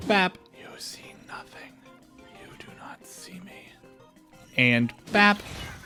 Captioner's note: whispering